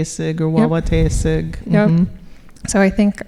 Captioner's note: speaking Ojibwe